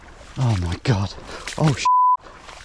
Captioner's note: water splashing